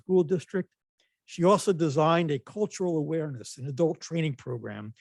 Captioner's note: none